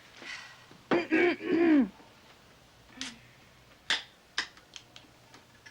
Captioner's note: Marcia clears throat